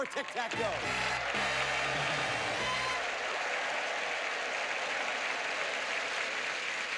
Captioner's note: audience applauding